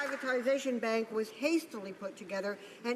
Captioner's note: some Applause